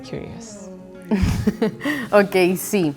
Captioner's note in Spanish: Risas